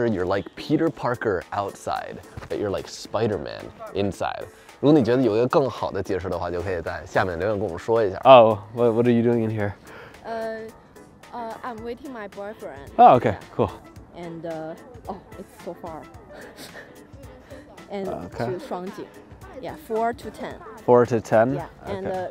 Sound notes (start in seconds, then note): 5.0 speaking in foreign language; 16.2 giggles